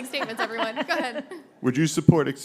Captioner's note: laughter